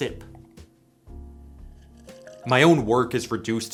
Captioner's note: sip